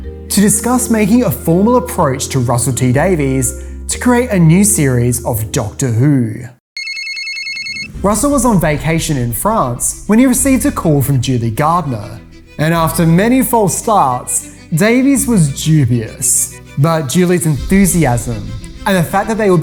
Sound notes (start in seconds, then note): 6.7 phone Ring